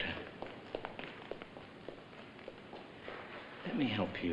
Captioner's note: footsteps